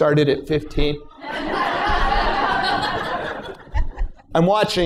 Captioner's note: laughter